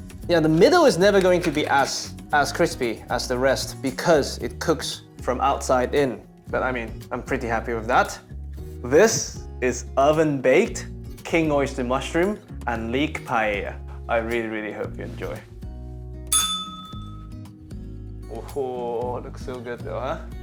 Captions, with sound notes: The middle is never going to be as crispy as the rest because it cooks from outside in. But I mean, I'm pretty happy with that. This is oven-baked king oyster mushroom and leek paella. I really, really hope you enjoy. [bell rings] Oh, looks so good though, huh?